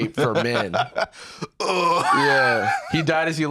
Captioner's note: laughs